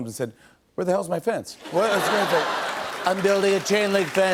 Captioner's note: laughter and applause